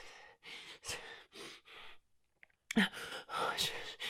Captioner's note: heavy breathing